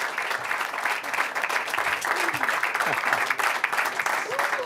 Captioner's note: applause